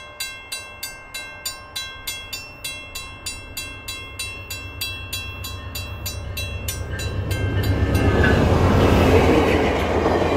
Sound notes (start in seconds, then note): 2.8 GE chug noise gets louder and closer; 6.0 loud GE chug and e-bell with doppler; 10.0 passenger car trucks whooshing over crossing